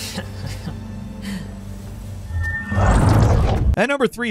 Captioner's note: Delilah laughing